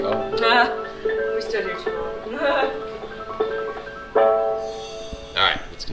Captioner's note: harp music; laughs